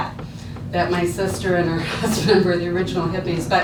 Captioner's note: laughs